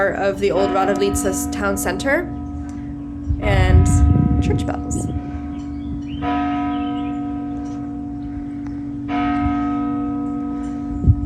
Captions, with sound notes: of the old Rada Litza's town center and church bells. (bell ringing)